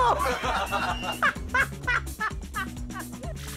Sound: laughter

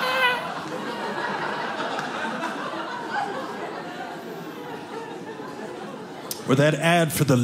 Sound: audience laughing

